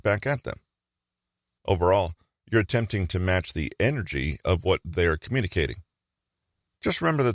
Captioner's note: fast rate